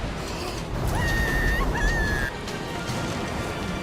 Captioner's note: kim screaming